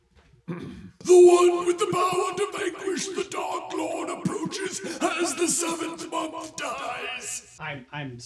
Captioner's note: clears throat; Trelawney voice